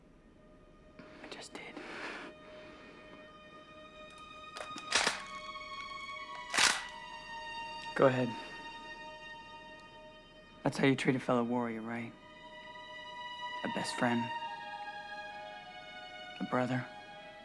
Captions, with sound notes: - I just did. (slow music) (gun clicking) Go ahead. That's how you treat a fellow warrior, right? A best friend? A brother?